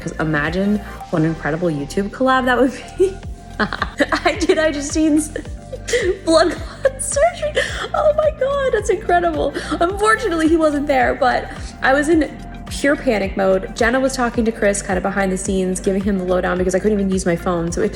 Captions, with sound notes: Cause imagine what an incredible YouTube collab that would be. (Host laughing) IJUSTINE Blood clot surgery, oh my God that's incredible. Unfortunately he wasn't there but I was in pure panic mode. Jenna was talking to Chris, kind of behind the scenes giving him the low down because I couldn't even use my phone.